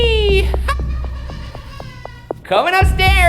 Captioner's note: laughing maniacally